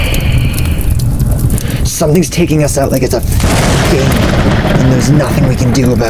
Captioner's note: sigh; thunder; thunder